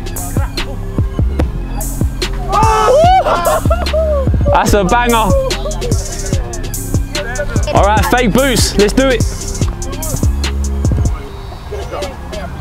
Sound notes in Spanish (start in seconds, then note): 0.1 música lenta de hip hop; 2.4 vítores de la multitud